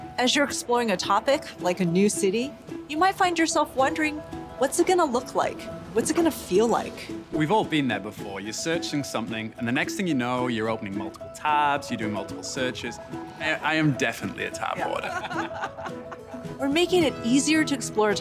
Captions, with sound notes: - As you're exploring a topic like a new city, you might find yourself wondering, what's it going to look like? What's it going to feel like? - We've all been there before. You're searching something. And the next thing you know, you're opening multiple tabs. You're doing multiple searches. I am definitely a tab hoarder. [LAUGHTER] - We're making it easier to explore